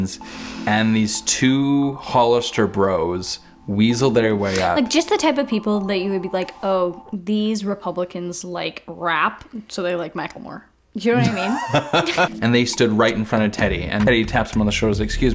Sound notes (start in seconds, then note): 11.1 laughs